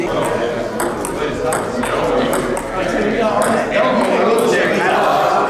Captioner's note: clacking of ball and paddle